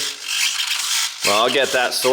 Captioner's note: shifter and wheel screeching